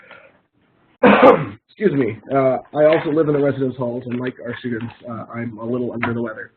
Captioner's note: coughs